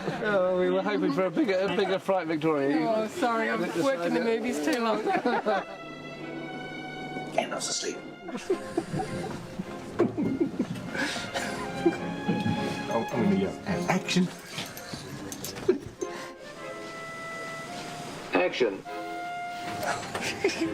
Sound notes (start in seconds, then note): 7.1 whispering; 19.8 all chuckling